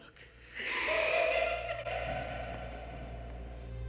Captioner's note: laughing; suspenseful music